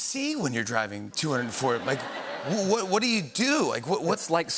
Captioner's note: laughter